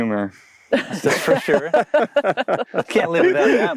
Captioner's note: all laughing